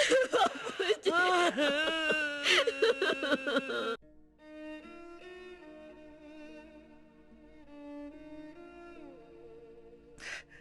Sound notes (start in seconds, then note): 2.4 crying